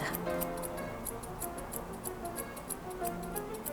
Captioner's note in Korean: 가위질 소리